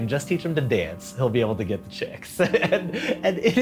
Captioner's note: laughs